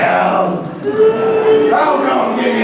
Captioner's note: boos